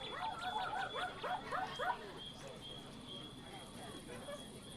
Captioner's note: dog barking